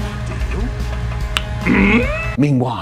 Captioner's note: click